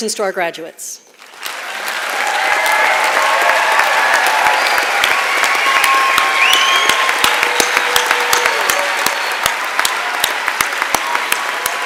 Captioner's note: applause